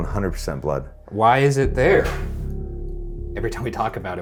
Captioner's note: object thuds